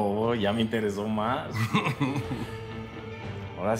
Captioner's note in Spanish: risas